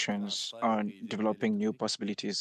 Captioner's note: speaking French